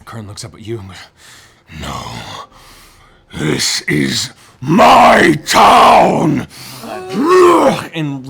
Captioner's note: roars